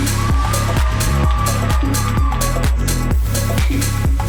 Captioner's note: crowd cheering